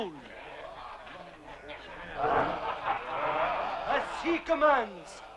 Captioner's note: chieftains laughing